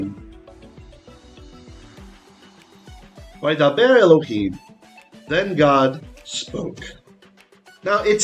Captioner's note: Hebrew